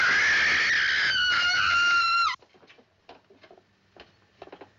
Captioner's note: screams